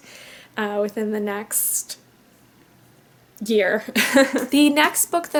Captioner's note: chuckles